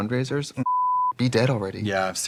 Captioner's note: beep